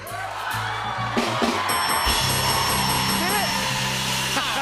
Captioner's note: dinging